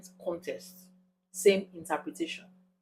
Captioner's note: paause